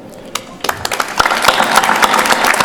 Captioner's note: applause